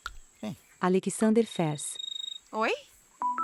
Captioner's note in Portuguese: Celular tocando